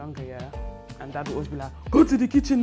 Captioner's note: imitates dad